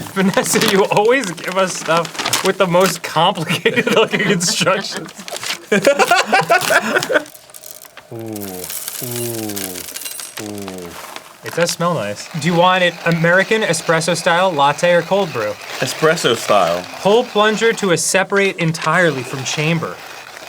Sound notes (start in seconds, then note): 5.8 laughs; 8.0 coffee pouring asmr